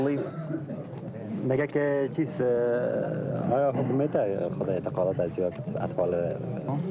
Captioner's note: men speaking in foreign language